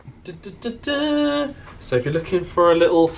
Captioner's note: humming